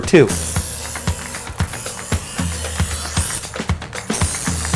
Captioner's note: metal sharpening